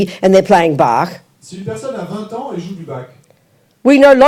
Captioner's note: French